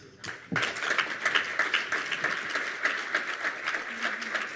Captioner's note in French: Applaudissements